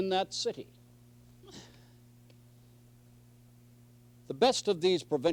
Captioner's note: silence